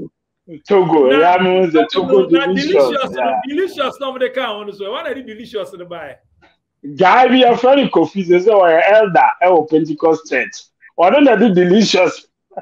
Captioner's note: laughs